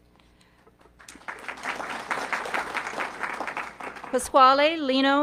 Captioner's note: audience clapping